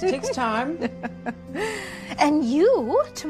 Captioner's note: laughs